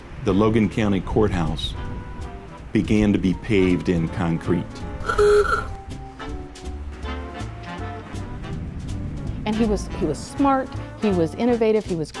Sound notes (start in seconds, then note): 5.0 car horn